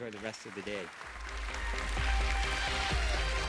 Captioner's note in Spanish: Aplausos